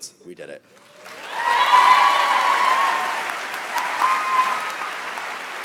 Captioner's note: audience applauds